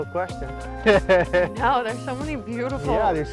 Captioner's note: laughter